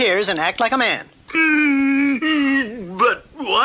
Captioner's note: King Cup stops crying